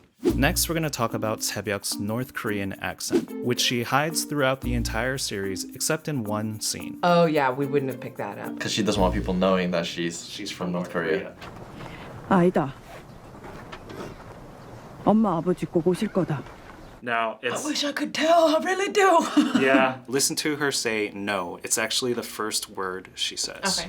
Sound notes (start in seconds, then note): 17.6 raspily; 19.2 chuckles